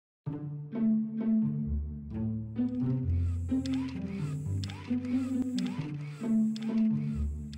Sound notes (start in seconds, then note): 0.2 lighthearted music; 3.0 pump whirring